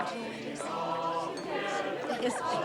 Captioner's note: background people chattering